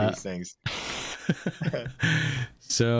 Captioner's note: chuckle